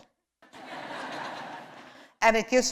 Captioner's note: laughter